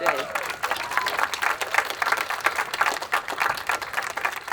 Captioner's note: attendees applauding